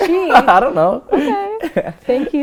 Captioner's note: laughter